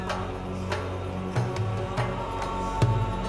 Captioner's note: chanting